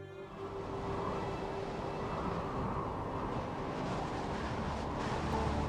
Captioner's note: wind blowing